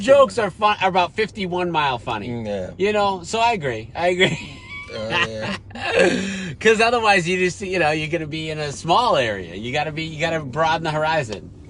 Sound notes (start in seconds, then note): 4.2 laughs